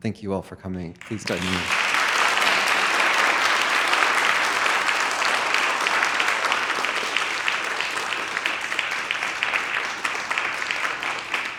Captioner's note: claps; audience clapping